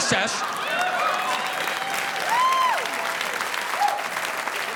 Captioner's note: audience applauding